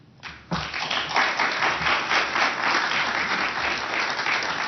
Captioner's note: applause